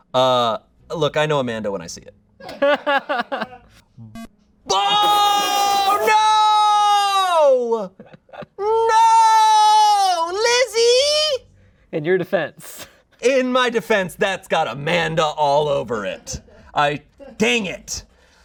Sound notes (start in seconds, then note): 2.4 audience laughing; 4.1 electronic beep